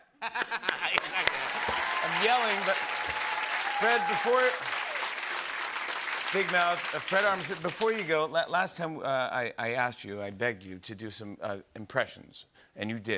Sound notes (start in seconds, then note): 0.1 laughter; 4.7 applause